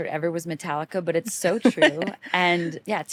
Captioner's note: laughs